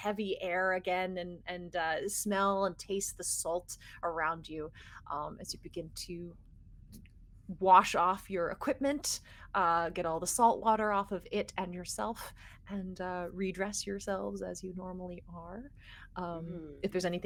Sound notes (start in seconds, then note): none